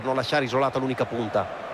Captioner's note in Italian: Applauso